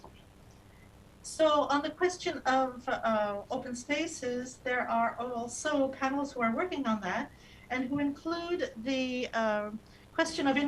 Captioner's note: speaking non-english